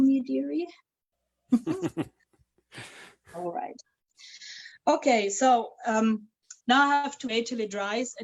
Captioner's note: chuckles